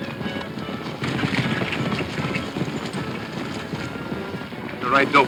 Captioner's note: dramatic music; hooves pounding